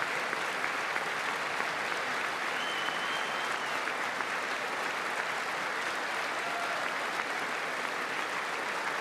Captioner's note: applause